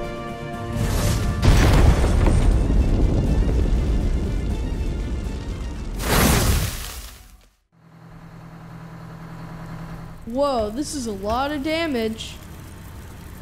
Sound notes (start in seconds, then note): 0.9 loud explosion; 7.7 fire truck engine; 11.4 fire crackling